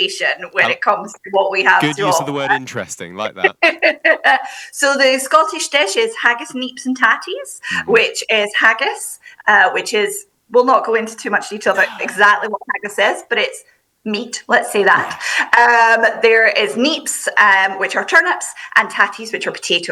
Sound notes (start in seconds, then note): 1.7 laughing